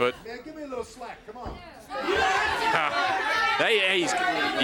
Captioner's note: crowd chatter